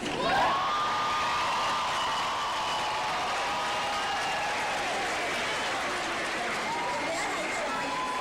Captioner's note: audience cheers and applause